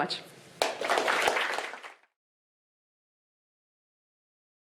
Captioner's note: applause